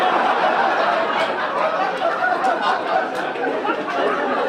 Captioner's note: audience laugh